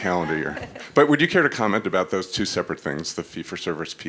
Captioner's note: laugh